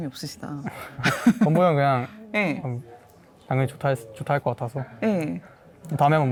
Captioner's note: laughs